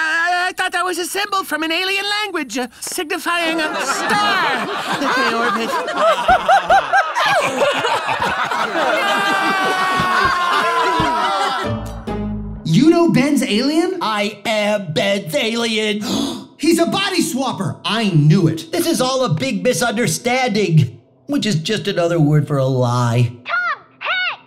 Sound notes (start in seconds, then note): 3.4 laughter; 16.0 gasp